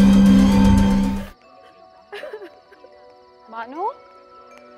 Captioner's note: Bano crying